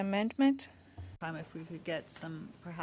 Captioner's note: speaking French